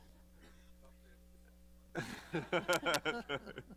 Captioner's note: laughter